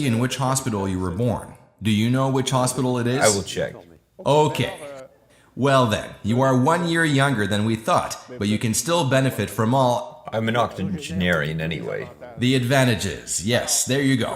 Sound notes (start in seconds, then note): 5.5 laughs